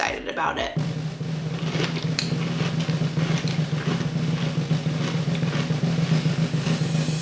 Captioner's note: drum rolling; cereal crunching